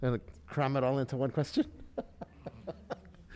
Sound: laughs

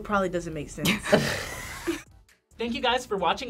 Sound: both laugh

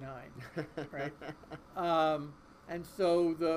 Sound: laughing

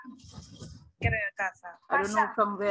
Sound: speaking gibberish

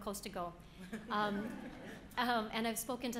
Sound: audience laughing

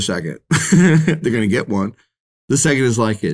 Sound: laughs

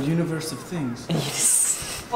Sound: chuckles

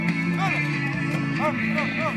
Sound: chatter

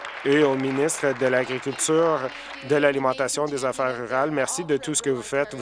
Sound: applause

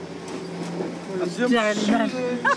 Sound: construction noise drowns out Clyde; laughs heartedly

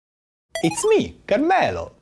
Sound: video game sounds

